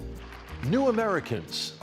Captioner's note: clapping